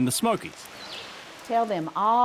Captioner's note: birds chirping